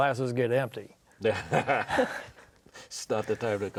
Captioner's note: laughs